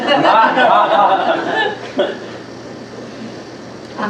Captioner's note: laughter